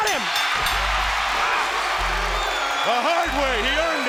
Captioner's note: bell rings